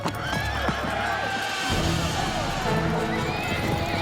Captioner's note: men yelling